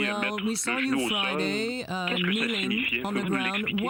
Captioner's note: speaking French